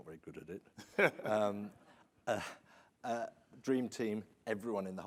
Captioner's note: laughs